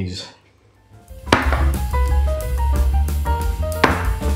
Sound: bang; bang

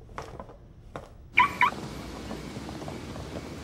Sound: car alarm beeps

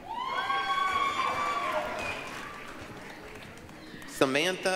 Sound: applause, cheering

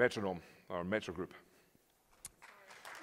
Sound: applause

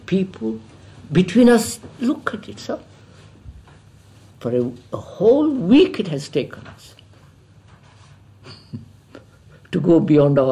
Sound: laughs

